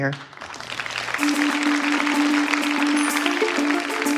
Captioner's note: applause